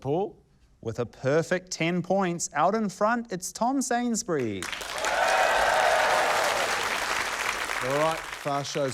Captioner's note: cheering, applause